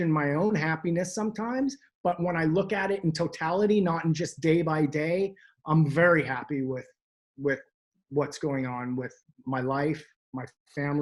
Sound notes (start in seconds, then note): none